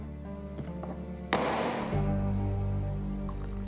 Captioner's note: gavel bangs; liquid pouring